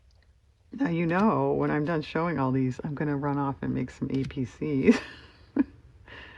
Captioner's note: laughs